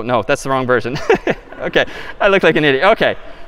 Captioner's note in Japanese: 笑い